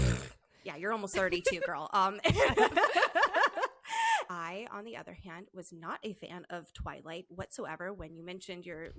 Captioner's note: laughter